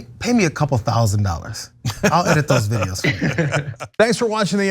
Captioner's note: laugh